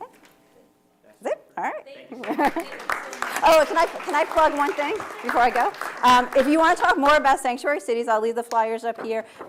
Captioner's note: laughter